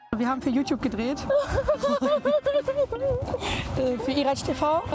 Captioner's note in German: Frau lacht